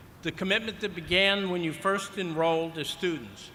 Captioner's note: none